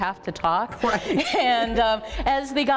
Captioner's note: laughter